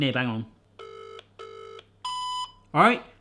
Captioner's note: phone rings